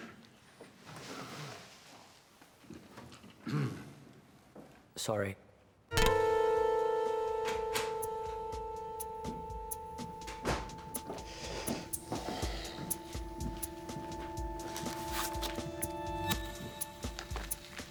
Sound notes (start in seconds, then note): 6.2 soft tense music; 7.9 door opens and shuts; 7.9 heels clack